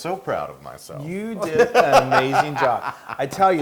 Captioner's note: laugh